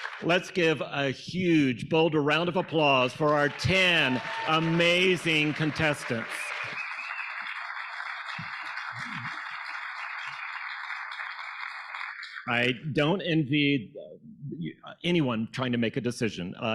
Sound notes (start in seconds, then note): 6.7 audience applauding; 6.7 audience cheering